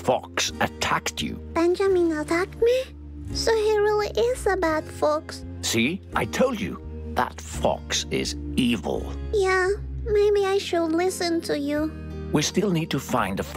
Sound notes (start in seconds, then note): none